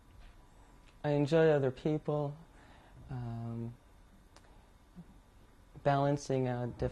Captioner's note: pauses for 3 seconds